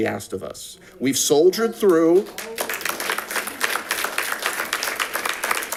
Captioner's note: audience claps